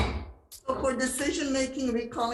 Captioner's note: gavel banging